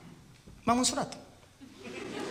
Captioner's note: laughter